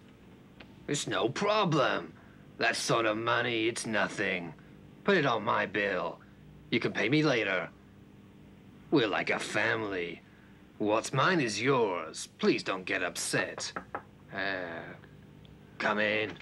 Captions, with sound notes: It's no problem, that sort of money, it's nothing. Put it on my bill, you can pay me later. We're like a family, what's mine is yours. Please don't get upset. (knocking) Eh, come in.